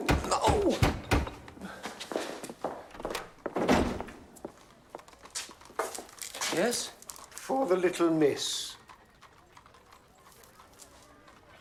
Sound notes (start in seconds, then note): 0.0 knocking on door; 2.7 door opens